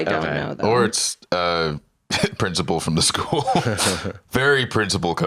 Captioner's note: laughs